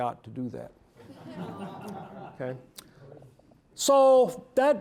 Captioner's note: audience laughing